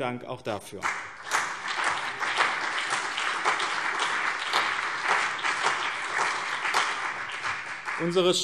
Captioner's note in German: Beifall BÜNDNIS 90/DIE GRÜNEN und CDU